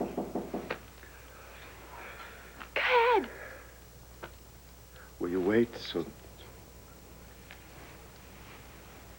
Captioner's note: knock on door